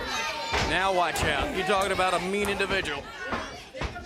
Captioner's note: crowd chatter